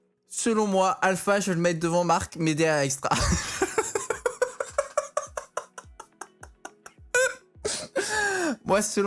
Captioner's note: another evil laughter